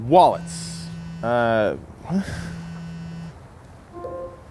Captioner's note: phone buzzing; phone notifying